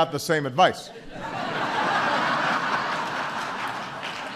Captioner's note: laughter and applause